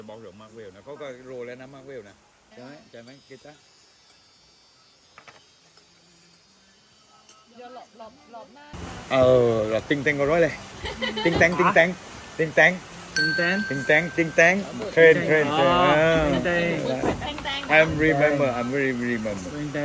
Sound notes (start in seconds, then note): 16.2 ding Ding